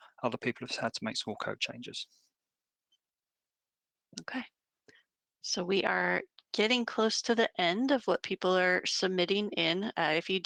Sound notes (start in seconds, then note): none